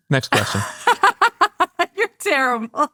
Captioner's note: laughing